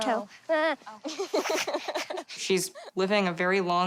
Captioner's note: laughing